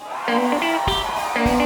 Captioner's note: crowd cheers; country music